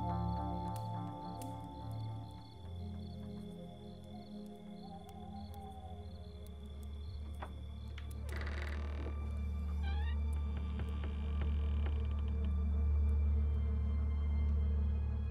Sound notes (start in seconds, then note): 7.9 door creaks; 12.2 suspenseful music